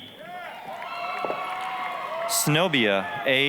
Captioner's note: applause, cheering